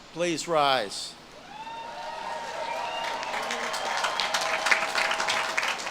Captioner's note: audience claps and cheers